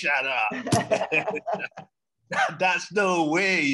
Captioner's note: both laugh